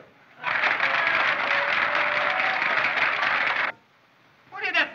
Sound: cheering, Laughing

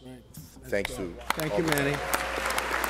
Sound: applause

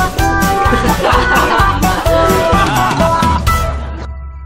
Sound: laughing

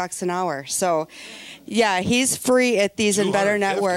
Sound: audience laughing

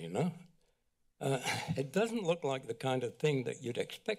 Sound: sighs

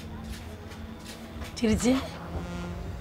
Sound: Amma speaks to her mother in malayalam

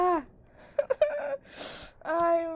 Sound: cries

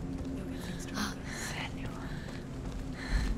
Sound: whisper

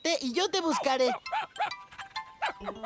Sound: barking & Panting

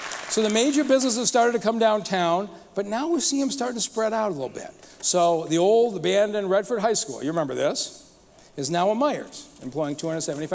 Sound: applause

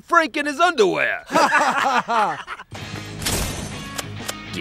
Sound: all laughing

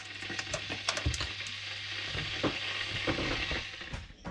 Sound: kettle hissing

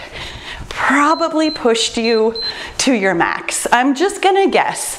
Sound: timer beeps

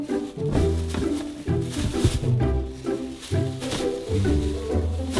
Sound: bags crinkle; light music

